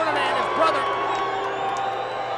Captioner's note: applause